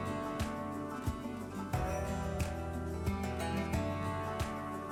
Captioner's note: gently chiming bells